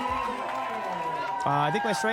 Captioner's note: people applauding